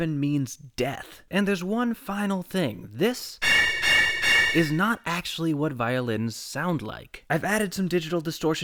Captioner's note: bang